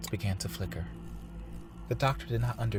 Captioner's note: electrical hum